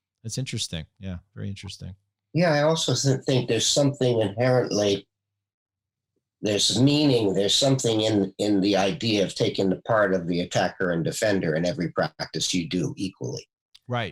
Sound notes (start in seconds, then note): none